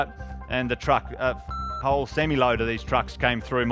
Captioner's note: beep